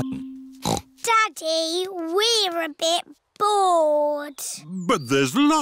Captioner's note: snorts